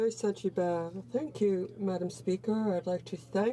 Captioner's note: speaking in french